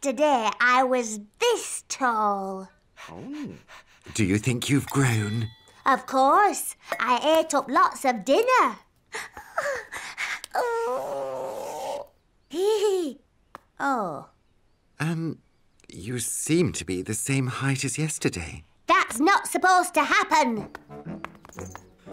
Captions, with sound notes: Yesterday, I was this tall. Do you think you've grown? Of course. I ate up lots of dinner. Oh! (giggles) Oh. Um, you seem to be the same height as yesterday. That's not supposed to happen!